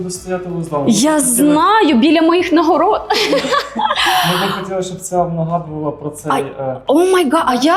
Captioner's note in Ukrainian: сміх